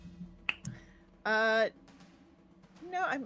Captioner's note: snaps fingers